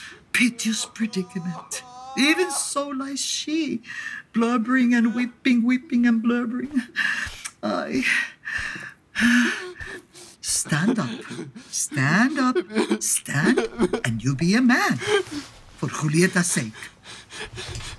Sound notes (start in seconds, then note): 0.0 Romeo sobbing; 9.1 sigh